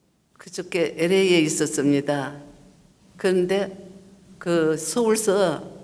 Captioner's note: speaking foreign language